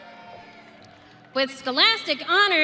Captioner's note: audience cheering